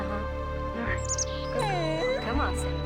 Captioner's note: dog whimpers